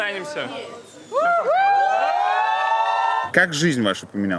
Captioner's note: crowd woos